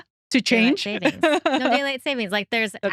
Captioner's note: laughing